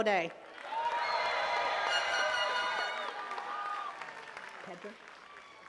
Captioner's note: attendees cheering and clapping